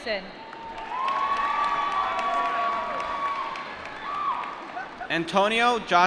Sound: cheering

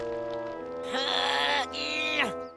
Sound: grunting

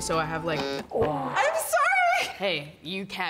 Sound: button buzzing

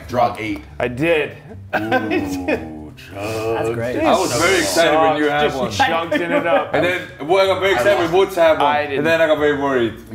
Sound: laugh

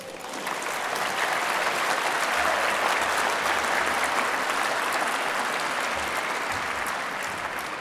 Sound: applause

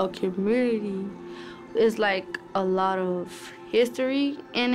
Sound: none

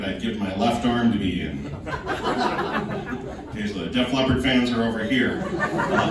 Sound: most of the audience laughs

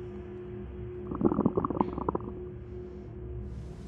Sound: stomach gurgles

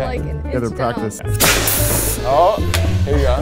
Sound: cannon hissing

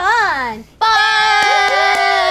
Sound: cheering

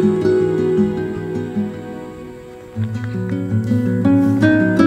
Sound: drone

